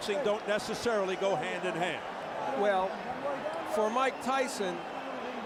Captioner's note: applause